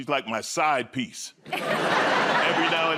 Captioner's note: laughter